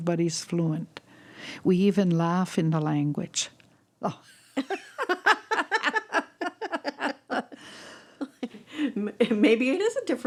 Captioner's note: laughter